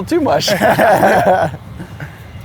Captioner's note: laughing